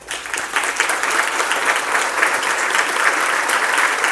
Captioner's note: applause